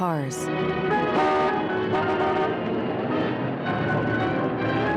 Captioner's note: horn honks